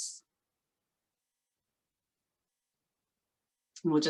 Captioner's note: silence while question is being answered